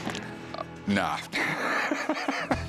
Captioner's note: laughs